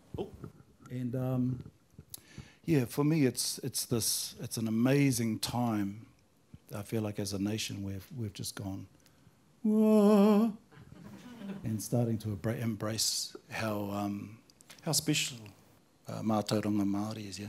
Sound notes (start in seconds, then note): 8.9 singing; 10.2 normal voice